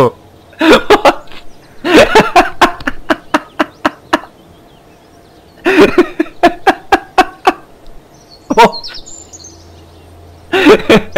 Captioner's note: laughter; more laughter